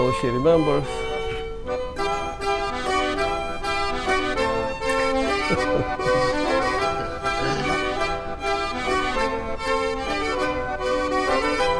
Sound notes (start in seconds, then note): 4.3 laughs